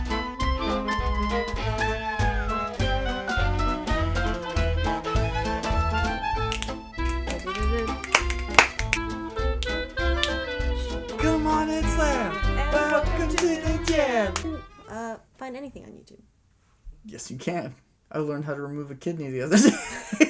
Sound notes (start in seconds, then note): 6.4 hands clapping; 6.4 fingers snapping; 19.5 laughter